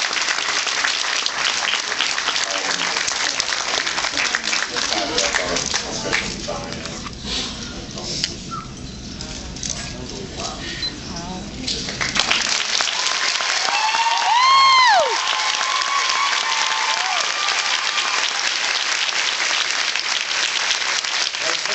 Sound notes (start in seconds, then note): 0.0 applauds; 8.4 whistles softly; 11.9 applauds and cheers